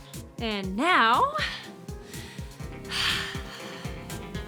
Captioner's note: sighs